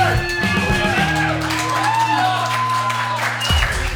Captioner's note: crowd cheering